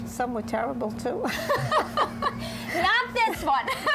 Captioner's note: laughter